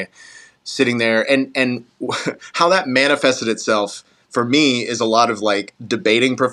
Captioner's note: laugh